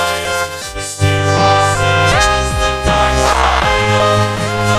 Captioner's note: all grunting